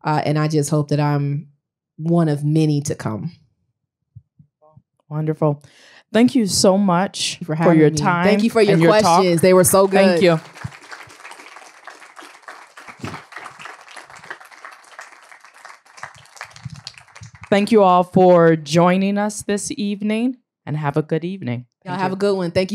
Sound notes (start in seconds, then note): 10.5 applause